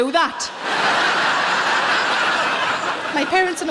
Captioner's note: audience laughing